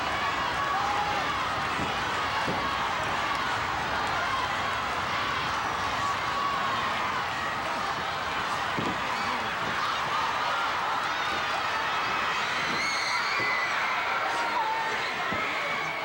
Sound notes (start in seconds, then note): 11.6 audience cheering continues